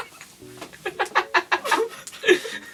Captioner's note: giggles to hide the pain within him